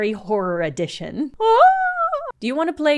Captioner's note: a fearful wail